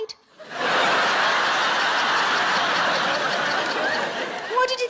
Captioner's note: audience laughing